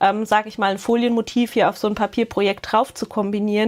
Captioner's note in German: none